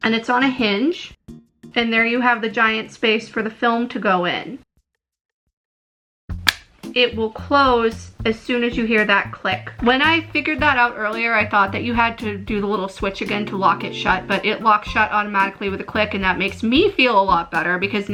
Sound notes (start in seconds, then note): 6.4 click